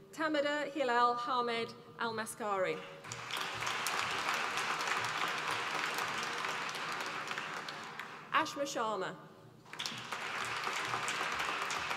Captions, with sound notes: Tamadher Hilal Hamed Al Maskari, (APPLAUSE) Ashma Sharma. (APPLAUSE)